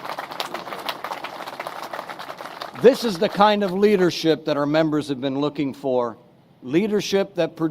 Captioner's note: applause